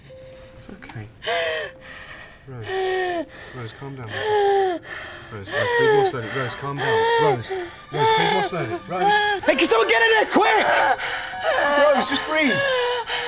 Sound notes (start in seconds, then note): 1.2 Rose breathing heavily; 8.7 Rose breathing heavily; 13.0 Rose breathing heavily